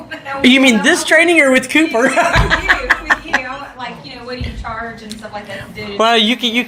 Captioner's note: laughs